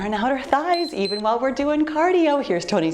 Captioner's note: timer beeps